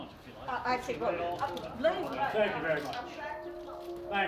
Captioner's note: chattering